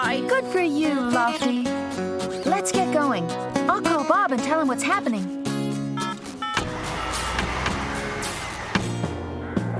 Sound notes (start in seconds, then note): 6.0 phone Dialing